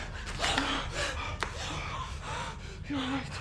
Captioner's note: both panting